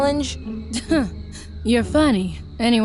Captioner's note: scoffs